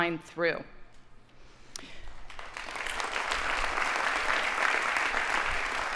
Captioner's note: audience applauding